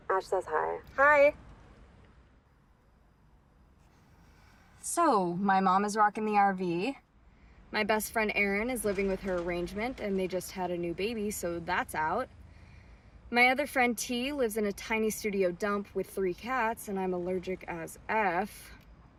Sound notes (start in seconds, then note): none